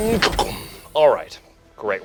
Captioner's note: doors shut